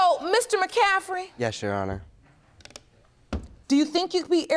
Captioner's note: closing computer